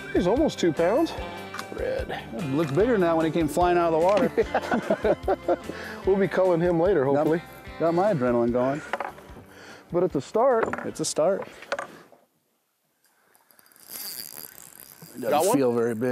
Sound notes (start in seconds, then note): 4.1 laughter; 13.0 reel cranking